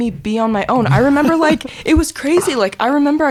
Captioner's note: chuckling